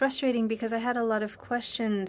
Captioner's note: speaking French